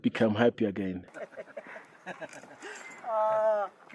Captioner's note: laughing